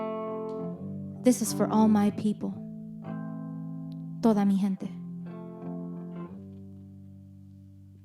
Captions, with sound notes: This is for all my people (speaks in foreign language).